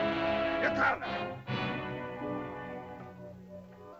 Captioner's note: dramatic music; Akhoba angrily speaks in caveman language; soft music